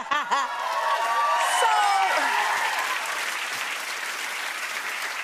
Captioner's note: cheers and applause